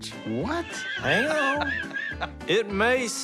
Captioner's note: laughs